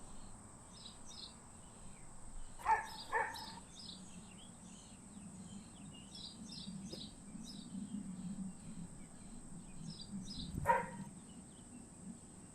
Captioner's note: birds chirping